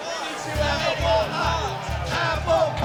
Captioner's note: chanting